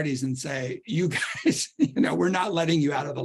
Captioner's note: laughter